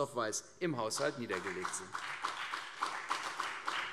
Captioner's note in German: Beifall CDU und BÜNDNIS 90/DIE GRÜNEN